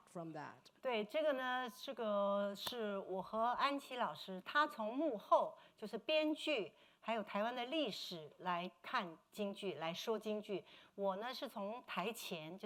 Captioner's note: speaking Mandarin